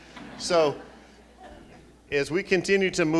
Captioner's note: laughing